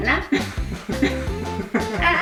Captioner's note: laugh